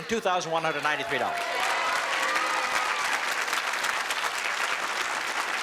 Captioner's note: applause